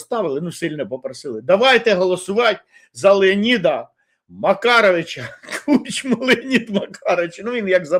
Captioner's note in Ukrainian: сміх